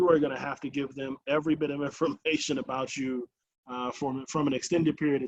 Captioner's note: chuckles